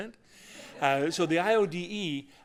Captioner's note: laughter